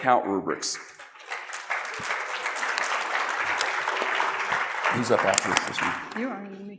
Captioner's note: applause